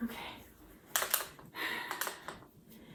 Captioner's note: shaking pen